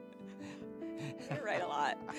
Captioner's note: laughs